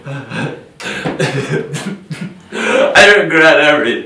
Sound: crying

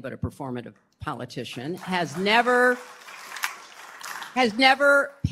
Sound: applause

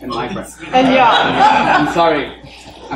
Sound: laughing

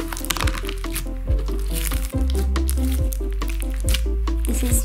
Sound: floam crunching

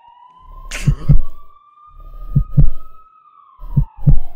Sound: sharp gasp

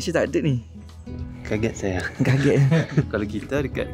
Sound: laugh

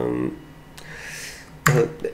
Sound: inhales

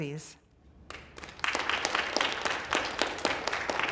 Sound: applause

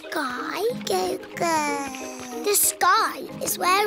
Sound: babbles

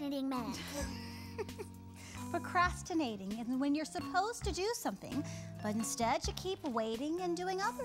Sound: laughs

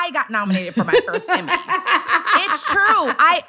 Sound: laughs

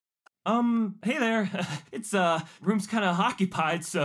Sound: chuckles

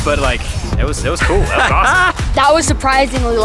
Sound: laughs

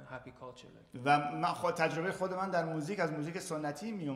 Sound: speaking in farsi

